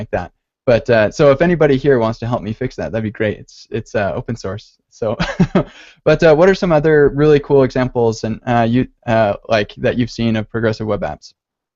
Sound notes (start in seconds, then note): 5.2 laughs